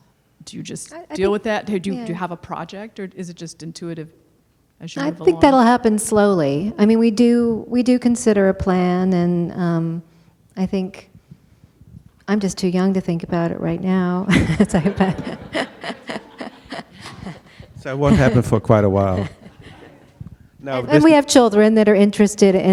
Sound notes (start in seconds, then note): 14.3 laughs over words; 16.1 laughter